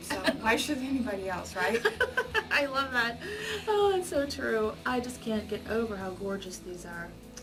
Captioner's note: laughs